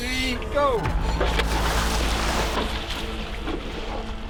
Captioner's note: splash